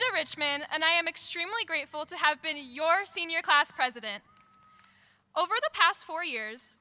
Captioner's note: cheering